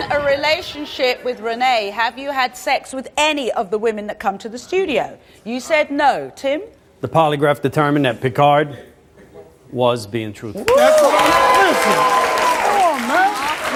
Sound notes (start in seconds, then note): 10.6 audience applauds